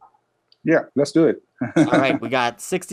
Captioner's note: laughs